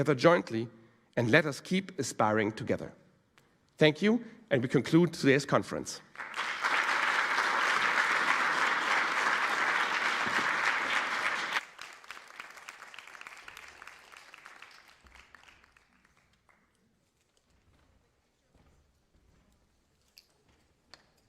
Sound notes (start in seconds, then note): 6.0 applause